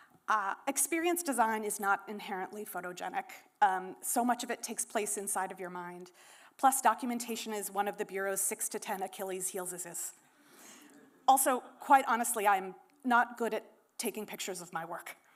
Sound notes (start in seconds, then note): none